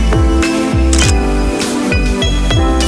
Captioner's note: photo Click